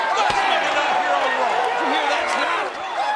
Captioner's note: audience cheers